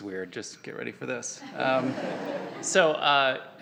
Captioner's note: audience laughing